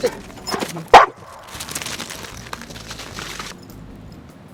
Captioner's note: murmurs; dog barks